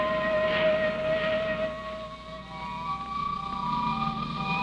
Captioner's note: radar whistling